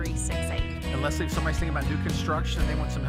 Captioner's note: voiceover